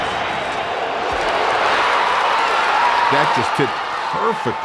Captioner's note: cheering